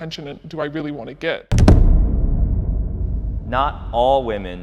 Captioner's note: audio thumps